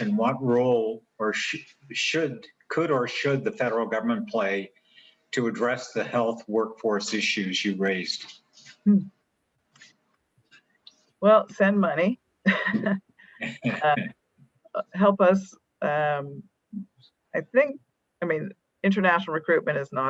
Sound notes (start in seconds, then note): 13.4 laughs